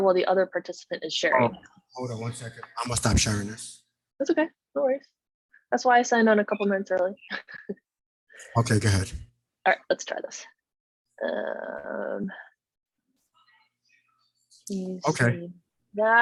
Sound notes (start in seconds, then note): 11.4 croaking